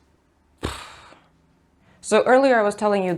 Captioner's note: exasperated exhale